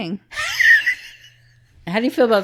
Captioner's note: laughing